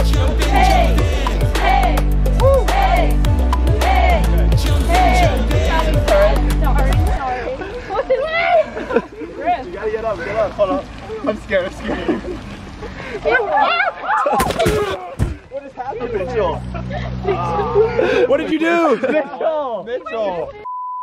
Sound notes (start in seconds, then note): 1.8 upbeat music; 13.2 yells; 14.3 crashes; 16.6 laughs; 20.7 beeps